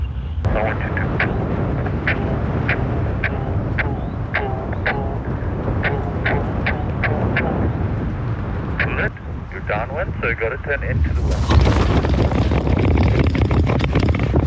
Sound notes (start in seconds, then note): 0.5 radio crackling; 10.9 wind rustling